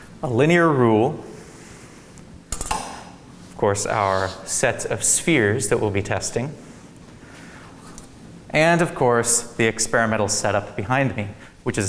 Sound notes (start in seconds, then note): 2.6 ruler clangs